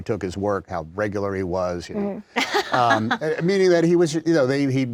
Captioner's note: laughter